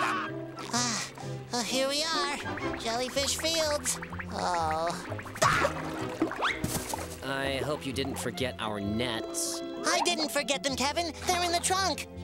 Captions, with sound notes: Ugh, well here we are, jellyfish fields. [groaning] Ah! I hope you didn't forget our nets. I didn't forget them, Kevin. They're in the trunk!